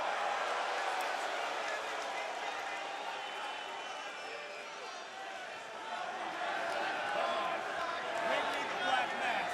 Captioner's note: crowd chatter